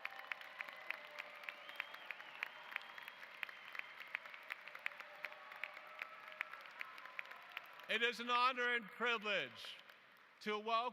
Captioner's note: applause